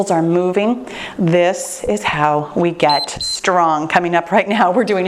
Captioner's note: timer beeps